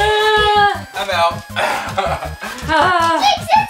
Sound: sighs

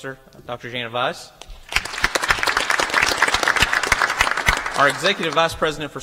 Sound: applause

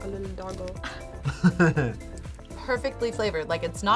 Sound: laughs

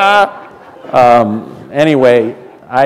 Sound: laughter

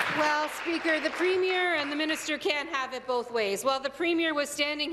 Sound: applause

